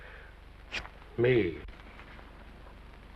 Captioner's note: pen scratches